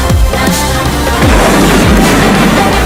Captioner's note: explosion